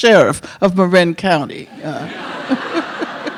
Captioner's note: audience laughing; chuckles